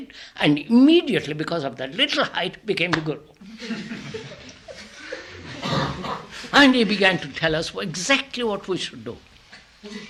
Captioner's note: laughter